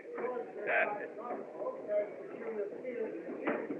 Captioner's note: laughs; Zeke Muttering Drunkenly